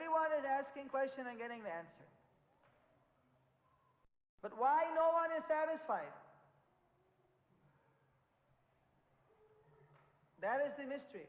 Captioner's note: in Hindi